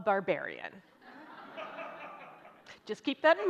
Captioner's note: audience laughing